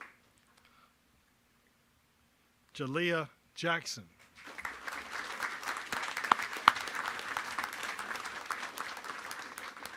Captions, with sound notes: Jaliah Jackson. (applause)